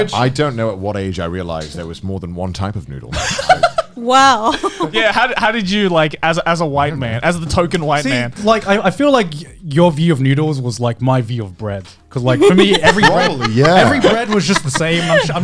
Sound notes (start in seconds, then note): 4.4 laughing